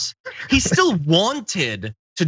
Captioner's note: laugh